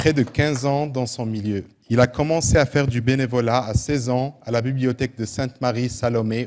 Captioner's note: applause; speaking French